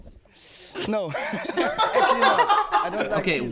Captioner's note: laughs